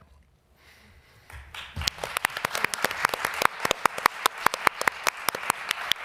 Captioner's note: applause